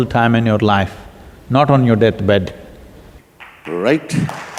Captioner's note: applause